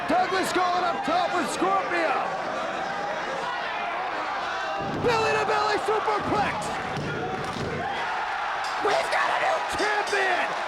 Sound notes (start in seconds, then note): 4.3 presenter speaking faintly off mic